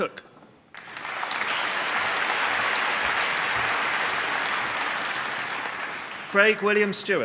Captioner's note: applause